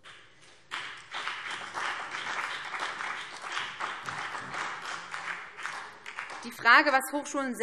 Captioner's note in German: Beifall BÜNDNIS 90/DIE GRÜNEN und vereinzelt SPD